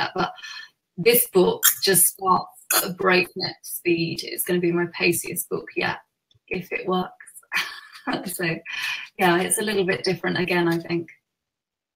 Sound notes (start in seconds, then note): 7.5 laughs